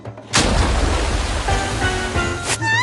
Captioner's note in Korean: 첨벙